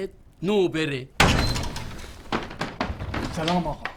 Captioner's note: door opening